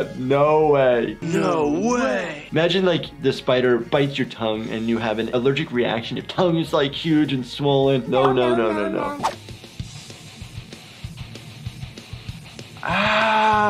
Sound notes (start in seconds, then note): 8.2 cat meowing no; 9.3 aggressive electric guitar music